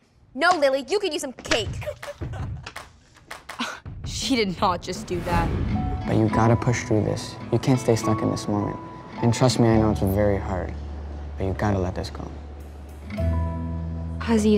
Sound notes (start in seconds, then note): 1.8 A-Troupe giggling; 3.5 Lily, scoffing